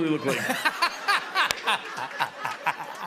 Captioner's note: laughter